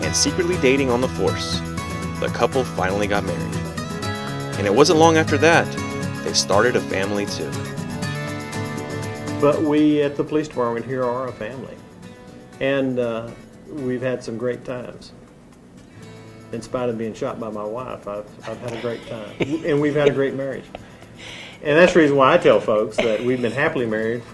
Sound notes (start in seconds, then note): 18.4 laughs